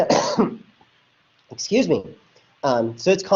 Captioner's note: coughs